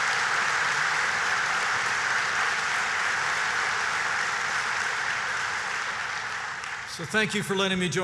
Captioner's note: applause